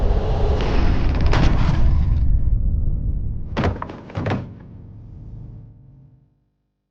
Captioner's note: body thuds; bookcase creaks